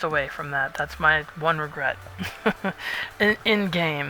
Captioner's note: laughs